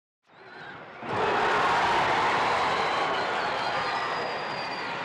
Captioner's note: crowd cheering